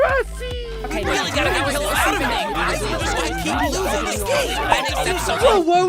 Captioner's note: fighting, yelling